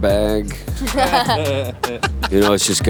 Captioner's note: laughter